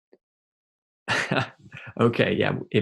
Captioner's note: chuckles